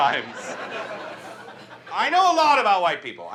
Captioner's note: audience laughs